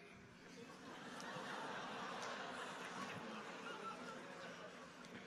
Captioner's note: audience laughing